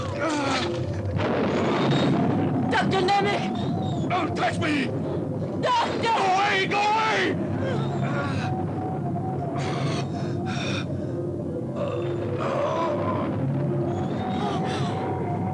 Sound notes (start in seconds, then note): 0.0 Nemek groaning; 1.6 thunder rumbles; 8.1 Nemek groaning; 12.4 thunder rumbles